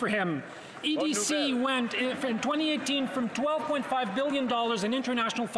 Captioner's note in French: voix de l'interprète